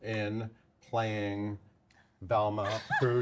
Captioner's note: laughs